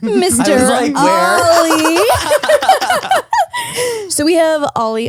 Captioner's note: all laughing